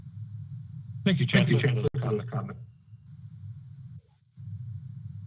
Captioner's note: voice breaks up